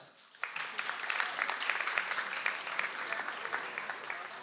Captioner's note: audience applauds